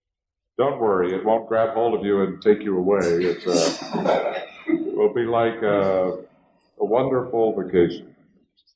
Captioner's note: laughter